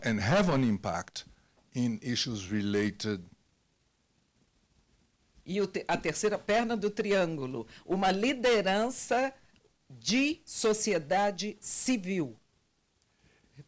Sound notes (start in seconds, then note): 5.7 translator speaking Portuguese